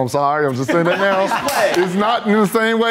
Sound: laughs

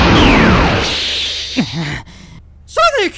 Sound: grunts

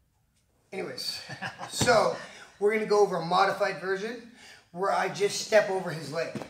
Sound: chuckles

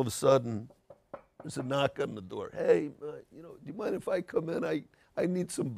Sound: knocks on the table

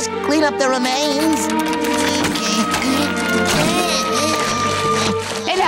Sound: grunting

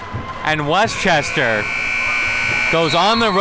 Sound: siren buzzing

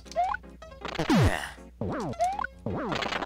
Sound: sigh

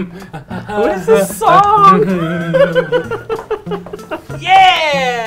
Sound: laughs

